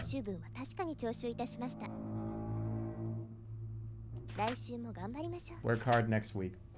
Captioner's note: vroomer passes